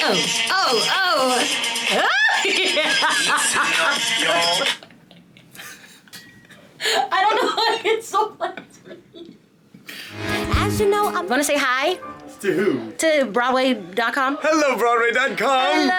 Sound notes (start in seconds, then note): 2.0 Jasmine squealing and laughing; 5.6 chuckling